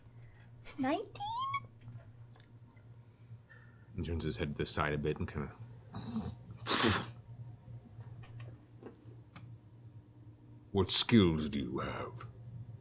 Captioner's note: spits